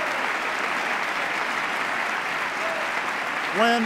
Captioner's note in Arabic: تصفيق